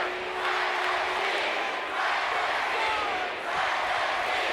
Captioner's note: crowd cheering